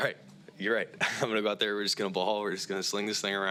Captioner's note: laughs